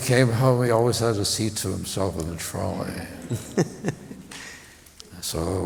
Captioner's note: laughter